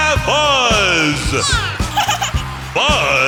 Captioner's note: giggling